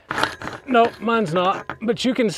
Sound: metal scrapping

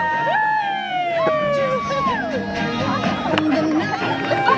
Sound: audience cheers

